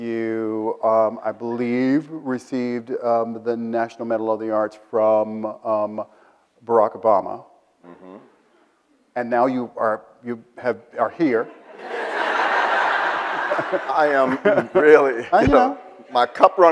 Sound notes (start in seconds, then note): 11.5 audience laughs